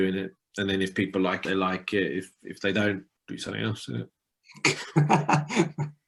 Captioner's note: laughter